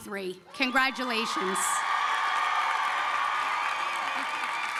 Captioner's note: applause